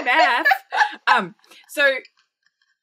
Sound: laughing

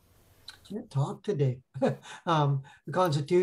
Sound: laughs

